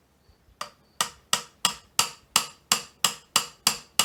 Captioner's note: hammer tapping